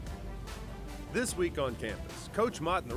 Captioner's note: voiceover